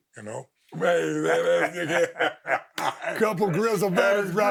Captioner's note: both laughing